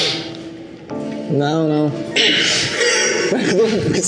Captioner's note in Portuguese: risos